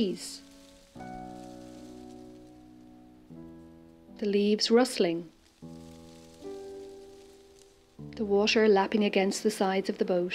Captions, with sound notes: [sound of leaves rustling] The leaves rustling. [sound of leaves rustling] The water lapping against the sides of the boat.